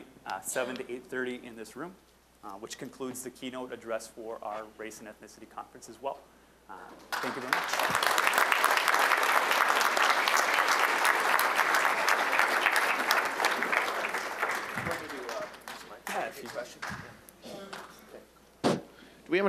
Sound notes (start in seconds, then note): 7.0 applause